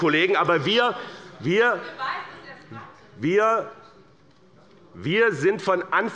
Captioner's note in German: Zurufe der Abg